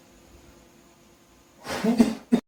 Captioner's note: blows; coughs